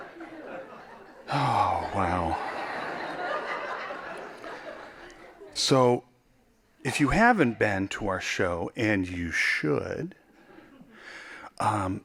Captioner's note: laughing